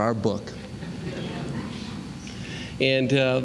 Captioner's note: laughter